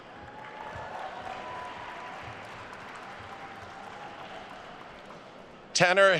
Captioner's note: attendees cheering and applauding